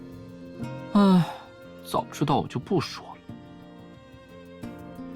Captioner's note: sigh